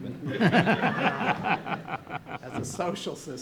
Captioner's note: audience laughing